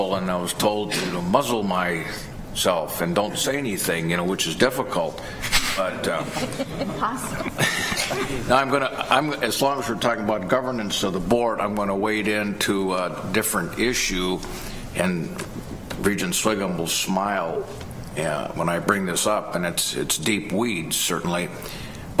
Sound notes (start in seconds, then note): 6.1 laughter